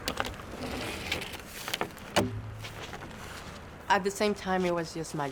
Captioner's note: board clunking